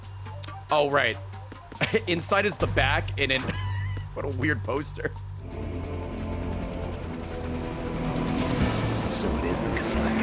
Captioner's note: laughs